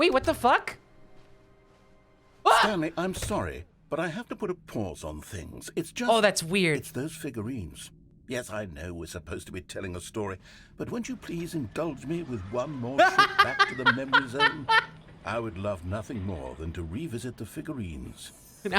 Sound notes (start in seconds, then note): 13.0 laughs